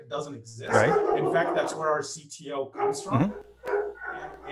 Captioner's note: dog barking